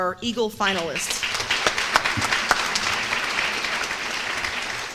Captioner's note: applause